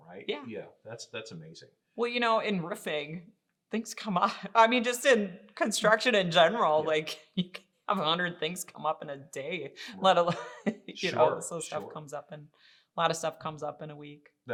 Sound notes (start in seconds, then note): 11.0 laughing